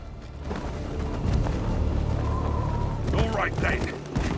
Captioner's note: wind howls